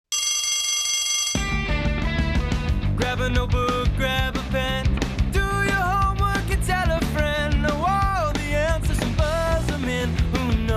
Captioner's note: bell rings